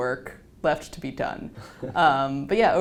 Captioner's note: laugh